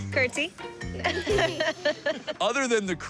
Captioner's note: laughter